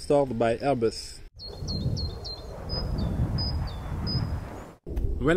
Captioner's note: birds singing; plane whooshing